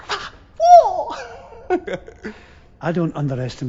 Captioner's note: laughing